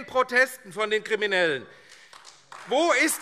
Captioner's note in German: Beifall AfD